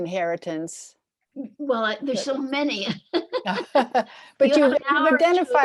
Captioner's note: laughing